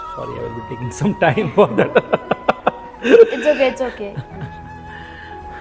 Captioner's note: laugh